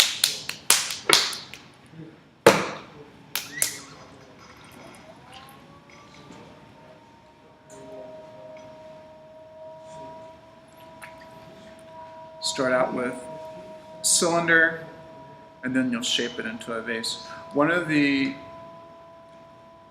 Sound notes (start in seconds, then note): 0.0 slapping sound; 2.5 thump